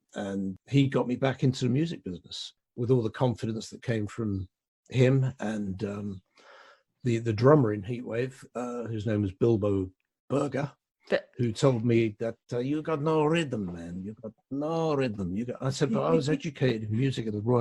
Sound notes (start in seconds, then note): 11.8 accented